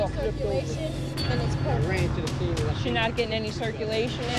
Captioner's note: none